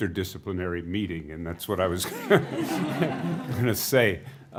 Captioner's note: laughing